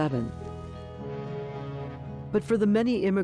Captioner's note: blowing ship horn